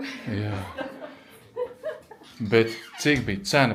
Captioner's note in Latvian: smiekli